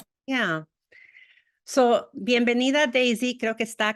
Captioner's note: spanish